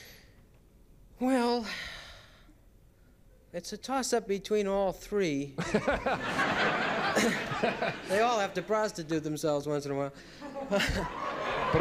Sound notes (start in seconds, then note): 5.6 laughter; 10.3 laughter